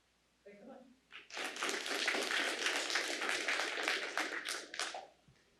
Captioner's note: applause